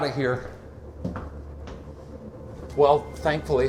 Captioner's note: footsteps clacking